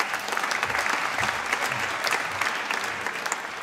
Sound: applause

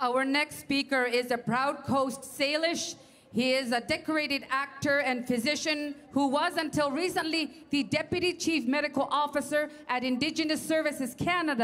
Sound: speaking French

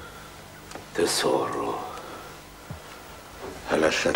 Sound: speaks Italian

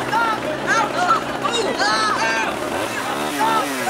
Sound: yelling

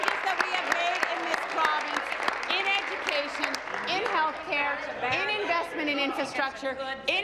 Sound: applause

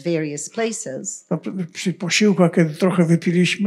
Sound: foreign language

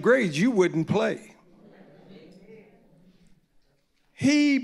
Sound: audience murmuring in agreement

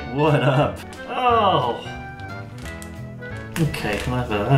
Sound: sound of disgust

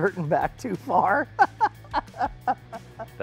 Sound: laughing

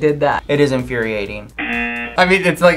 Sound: buzzer rings

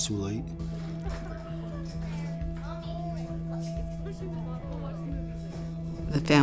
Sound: background Conversation

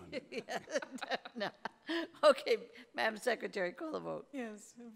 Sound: laughing

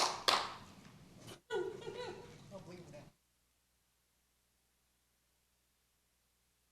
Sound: applause

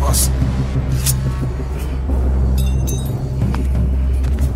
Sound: knife slashes

